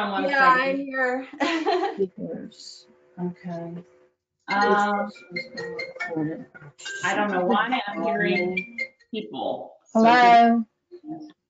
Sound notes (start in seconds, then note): 1.4 laughs; 2.7 phone rings